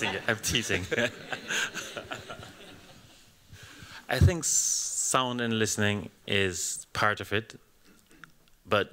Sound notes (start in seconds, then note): 0.0 laughter